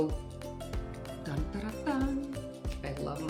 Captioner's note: hums a musical note